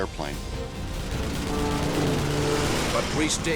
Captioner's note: weapons firing